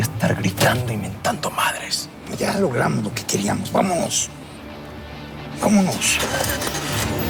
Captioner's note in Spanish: Ruido del vehículo